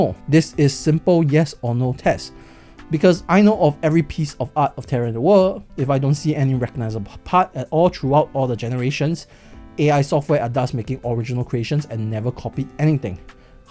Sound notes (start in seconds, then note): none